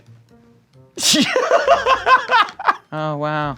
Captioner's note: laughing